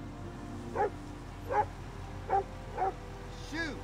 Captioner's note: barking